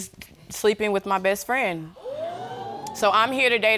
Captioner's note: audience exclaims